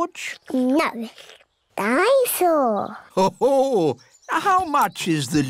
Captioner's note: daddy pig laughs